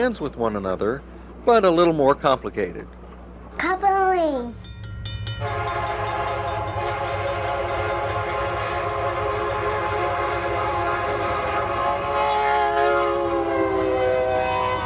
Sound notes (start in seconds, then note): 4.5 crossing bells dinging; 5.3 train hoots